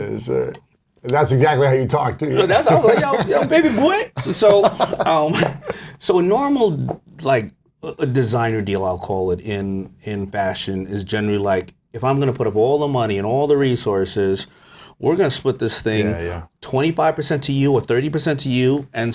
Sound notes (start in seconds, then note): 2.3 laughs